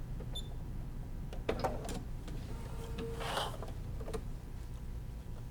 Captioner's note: sewing machine beeping